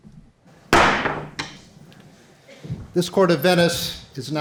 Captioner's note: hammer thuds